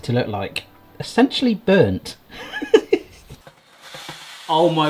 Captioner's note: laughs